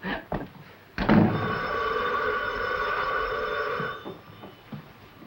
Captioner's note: phone rings